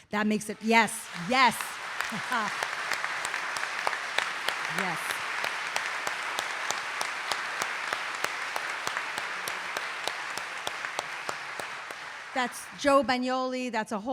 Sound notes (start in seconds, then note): 6.3 audience applauding; 10.1 laughs